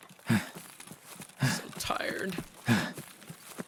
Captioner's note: inhale